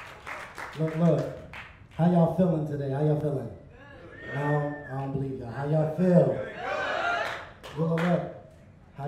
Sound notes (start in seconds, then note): 0.0 crowd claps; 3.7 crowd; 6.2 crowd